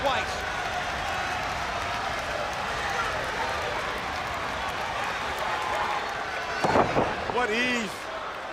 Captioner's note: crowd chatter